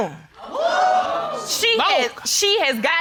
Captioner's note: audience exclaiming